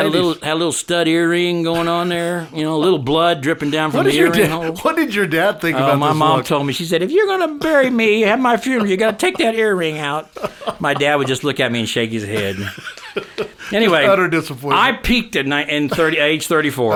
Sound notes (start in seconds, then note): 12.0 laughing